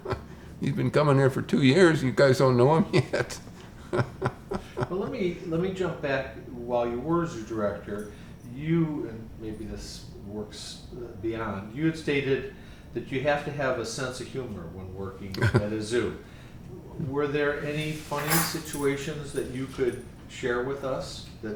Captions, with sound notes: You've been coming here for two years, you guys don't know him yet (laughs). Well, let me jump back while you were zoo director, you and maybe this works beyond. You had stated that you have to have a sense of humor when working at a zoo. Were there any funny situations that you could share with us